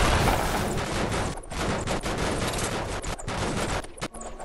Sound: a whole lotta breaking sounds

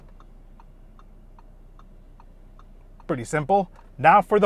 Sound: indicator ticking

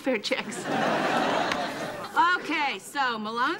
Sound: audience laughing

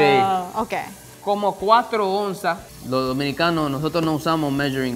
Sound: speaking in foreign language

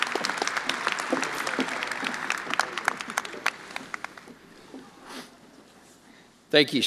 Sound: attendees applauding

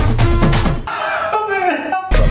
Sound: crying

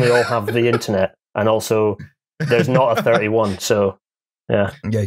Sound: laughs

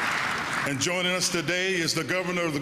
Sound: applause

